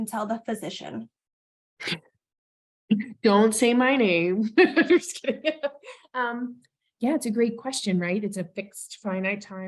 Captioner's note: laughs